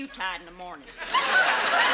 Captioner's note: audience laughs